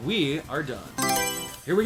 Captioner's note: Mario Selection Sound